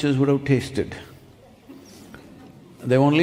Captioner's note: few laugh